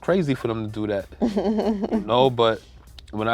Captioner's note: laughs